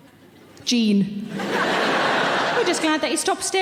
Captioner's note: audience laughing